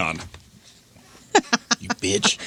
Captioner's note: laughing